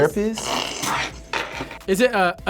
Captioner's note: laughs